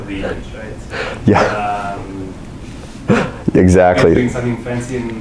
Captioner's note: laughs